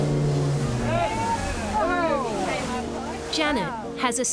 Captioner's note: exclaiming